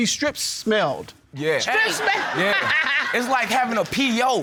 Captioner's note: laughs